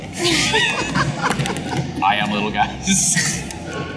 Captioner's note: laughter